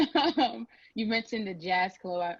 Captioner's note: laugh